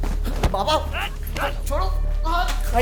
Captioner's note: police shouting